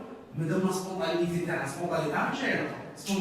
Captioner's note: French